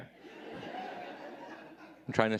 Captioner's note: audience laughing